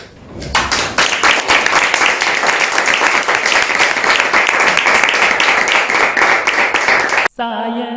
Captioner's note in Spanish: aplausos